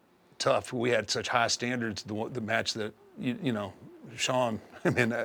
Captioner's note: laugh